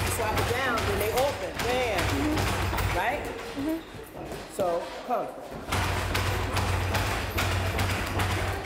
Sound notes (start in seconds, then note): 0.8 chattering